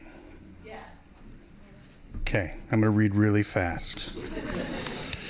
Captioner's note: laughing